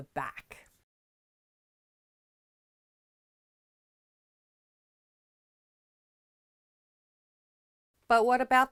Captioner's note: no Sound Present